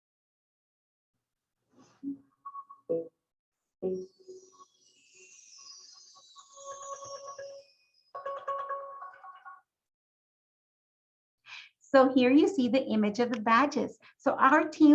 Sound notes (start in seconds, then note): 1.4 silence as new screen comes up